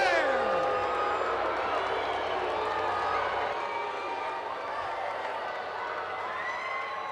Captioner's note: crowd booing; crowd cheering